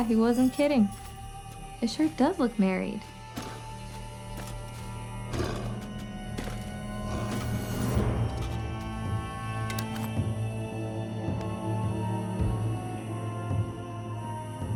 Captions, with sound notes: He wasn't kidding. It sure does look married. (Loki growls softly) (tense, ritualistic music)